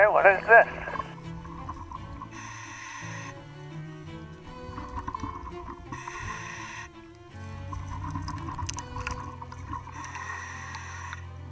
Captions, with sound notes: Okay, what is this? (classical music playing) (deep breathing)